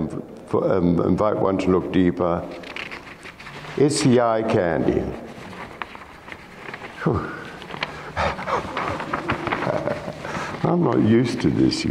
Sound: laughs

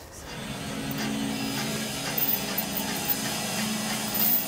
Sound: machine rumbling

